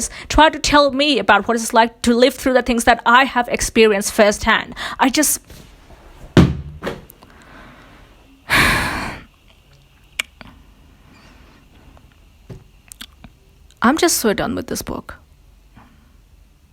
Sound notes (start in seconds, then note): 8.4 sighs